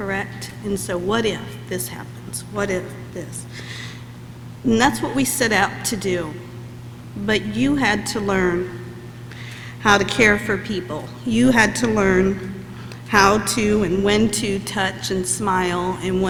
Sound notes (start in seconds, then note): none